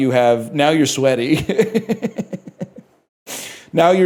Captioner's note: laughs